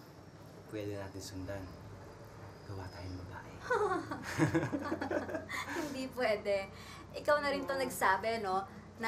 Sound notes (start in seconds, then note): 3.7 laughs; 3.7 both laughing